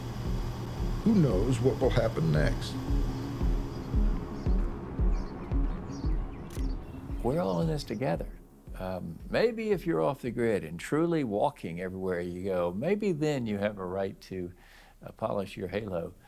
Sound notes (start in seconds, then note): 5.0 birds chirp; 5.0 camera shutter clicks